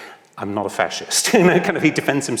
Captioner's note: laughs